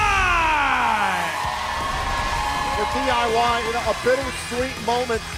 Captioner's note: cheers and applause